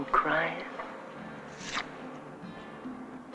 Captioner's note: ripping photo; suspenseful music